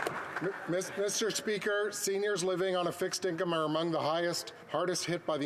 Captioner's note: some Applause